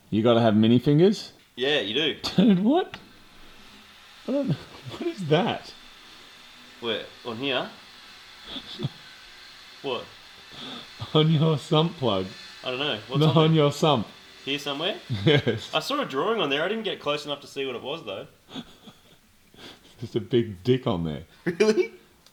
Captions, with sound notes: -You've gotta have Mini fingers? -Yeah, you do. -Dude! What? What on Ear-what is that? -Where? On here? -(chuckles) -What? -On your Sump Plug. -I dunno. -Look on your Sump. -Here somewhere? (laughing) Yes I saw a drawing on there. I didn't close enough to see what it was though. (laughing) -Just a big dick on there. -Really?